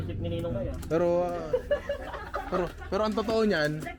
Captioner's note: laughter